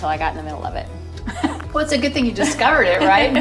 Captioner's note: laughing